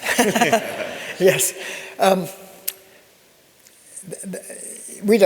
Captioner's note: audience laughs